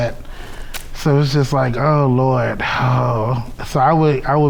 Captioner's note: sighs